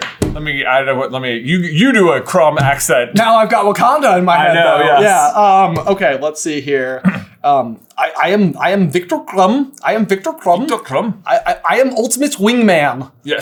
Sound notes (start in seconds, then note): 7.9 swedish-y